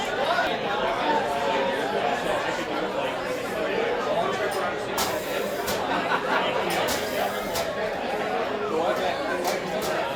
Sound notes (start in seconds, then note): 0.0 general chatter; 5.0 high-pressure spraying noise; 9.0 general chatter